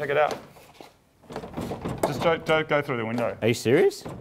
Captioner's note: door rattles